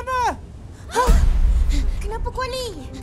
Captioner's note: all gasp